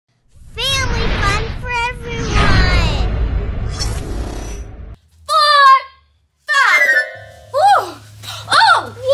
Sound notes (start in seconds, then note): 1.8 supersonic jet whooshes; 6.5 playful magical sound plays